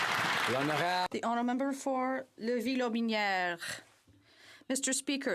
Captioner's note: some Applause